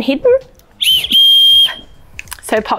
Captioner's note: whistling